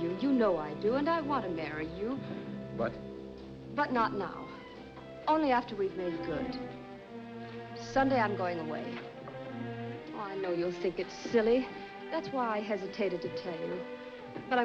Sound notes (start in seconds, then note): none